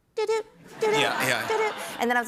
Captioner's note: laughter